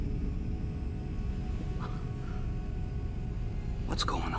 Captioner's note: sighs